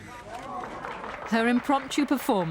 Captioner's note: applause